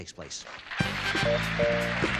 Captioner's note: applause; upbeat music